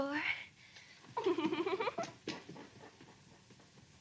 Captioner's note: giggles